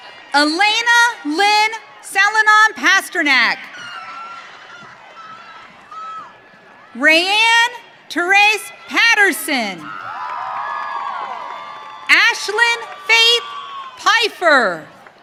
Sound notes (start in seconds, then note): 0.0 audience cheering; 9.6 audience cheering